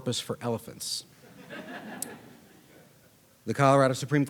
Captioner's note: audience laughing